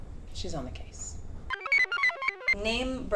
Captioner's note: computer chirps